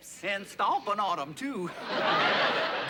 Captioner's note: laughter